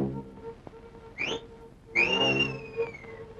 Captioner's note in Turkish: Islık sesi